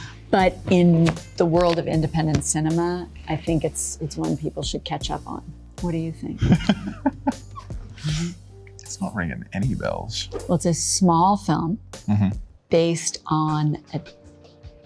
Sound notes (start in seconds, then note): 6.4 Liam laughing